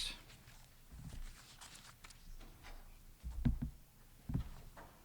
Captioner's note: paper scuffling